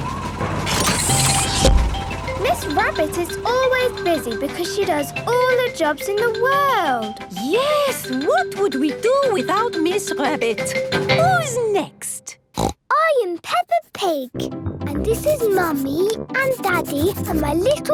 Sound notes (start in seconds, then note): 12.5 snorts